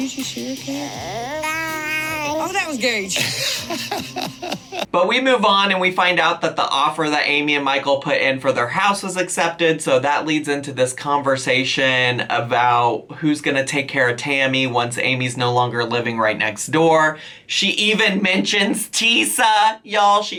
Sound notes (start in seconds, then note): 1.8 babbles; 4.3 laughs